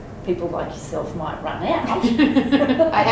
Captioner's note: laughter